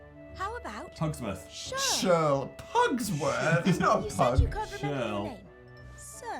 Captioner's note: laughs